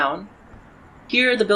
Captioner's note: quieter street noise